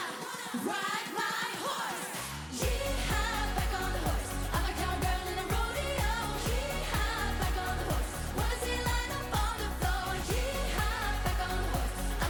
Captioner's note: Applåder